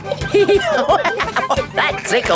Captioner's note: laughing